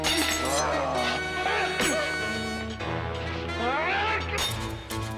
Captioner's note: swords clank; yells; thuds; tense music